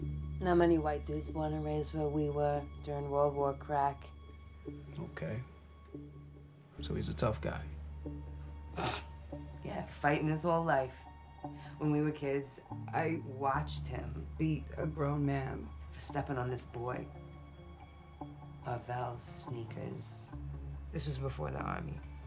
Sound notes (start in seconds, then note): 8.6 chuckles